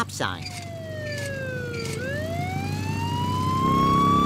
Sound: police sirens

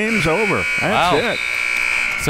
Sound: buzzer

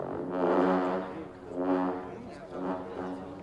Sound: horns blowing

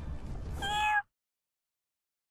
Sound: meows

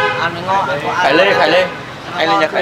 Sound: chatting

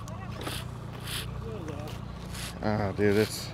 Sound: reel spinning

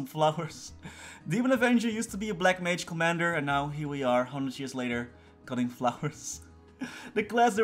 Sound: sigh

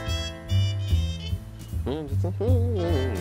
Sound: humming

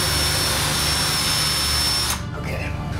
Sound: drilling

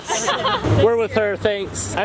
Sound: laughs

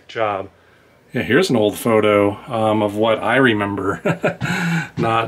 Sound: laughter

